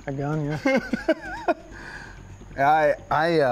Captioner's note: laughing